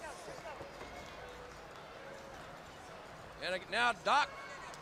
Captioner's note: crowd chatter